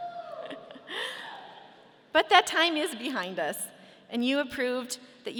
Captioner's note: laughs